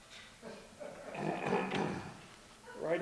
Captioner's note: clears throat